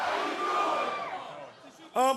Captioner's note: fans chanting